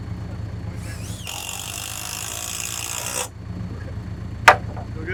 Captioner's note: drill buzzing